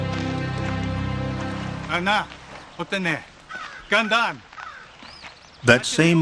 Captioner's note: man speaks Native American language